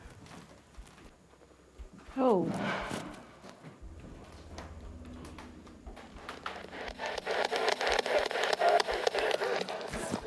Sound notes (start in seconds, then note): 2.5 metal hit; 4.3 footsteps; 6.8 spirit box scanning